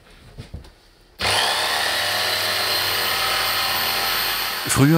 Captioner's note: loud whirring